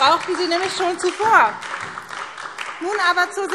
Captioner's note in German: Beifall SPD und vereinzelt Freie Demokraten